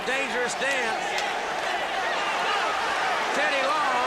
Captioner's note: crowd chatter